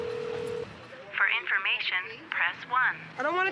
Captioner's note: woman on phone